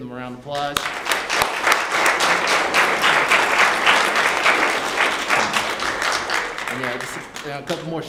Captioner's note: applause